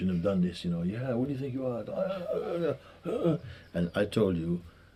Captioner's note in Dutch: nagespeeld schreeuwen